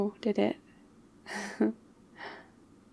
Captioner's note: laughs